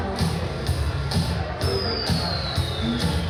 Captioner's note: singing; bomb hissing through the air